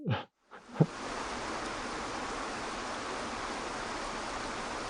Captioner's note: water flowing